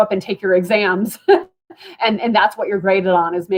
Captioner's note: laughter